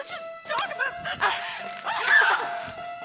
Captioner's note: screams